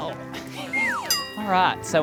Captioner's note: laughs